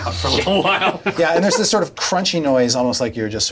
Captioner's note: laughs